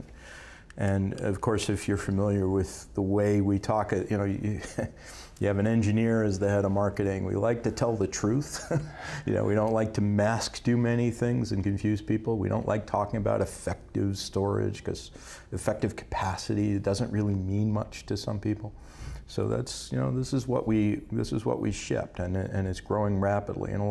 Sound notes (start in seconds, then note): 8.5 laughs